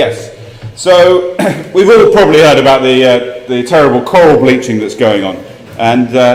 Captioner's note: cough